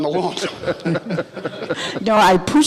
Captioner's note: men laughs